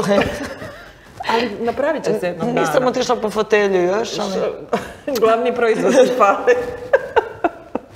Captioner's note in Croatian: smijeh